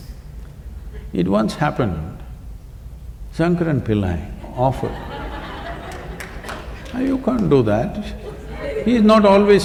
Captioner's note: laughs; laughter